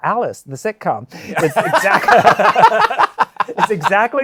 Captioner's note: laughter